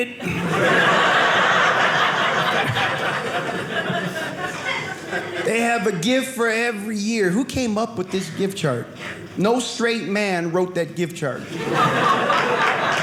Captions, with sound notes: (audience laughing) They have a gift for every year. Who came up with this gift chart? No straight man wrote that gift chart. (audience laughing)